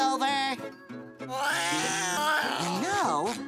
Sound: growling

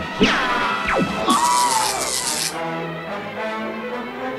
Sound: dying scream

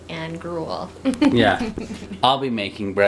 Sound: laughs

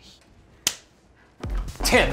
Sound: claps hands

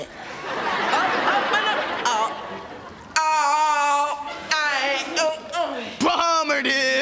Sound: groaning

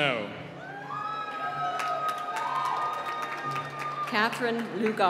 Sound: cheering and applause

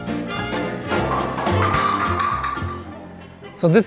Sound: bowling ball hits pins

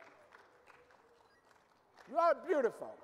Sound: audience applauding

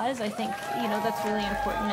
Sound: cheering, applause

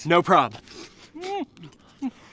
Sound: muffled grunt

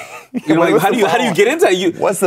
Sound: laughing

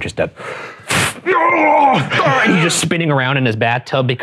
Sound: air whooshing; groaning

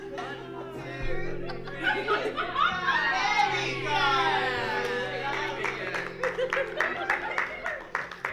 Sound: cheering

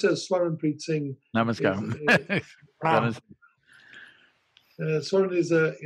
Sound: laughs

